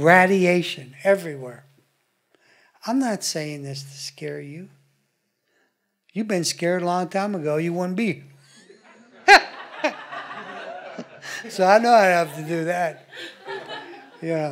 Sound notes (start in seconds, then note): 8.6 audience laughing